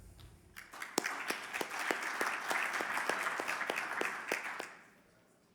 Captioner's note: audience applauding